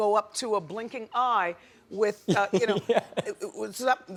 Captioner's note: laughs